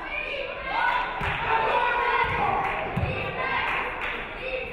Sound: audience cheering

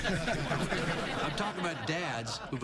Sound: laughter

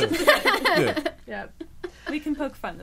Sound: all laughing

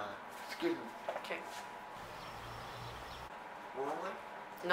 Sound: birds chirping

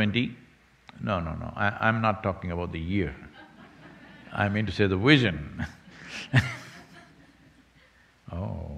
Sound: laughs

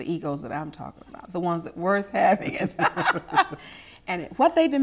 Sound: laughter

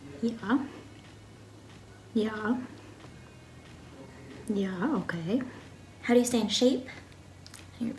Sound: none

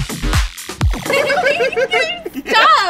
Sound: upbeat music; laughing

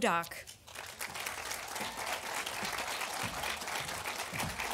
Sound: audience applauding

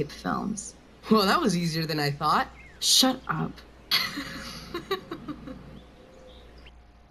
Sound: Max laughs

